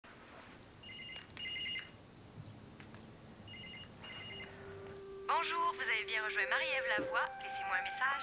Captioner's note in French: Le téléphone sonne